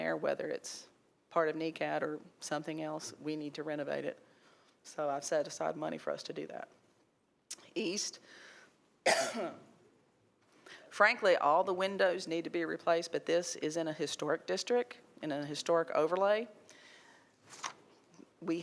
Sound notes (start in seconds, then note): 9.0 coughs; 17.4 paper rustling